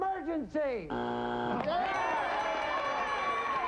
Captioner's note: buzzer; overlapping chatter